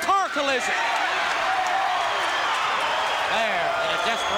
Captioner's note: crowd cheering